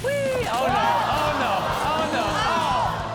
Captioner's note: audience oohs